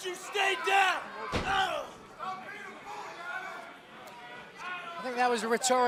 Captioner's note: crowd chatter